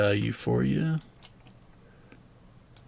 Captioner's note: mouse clicking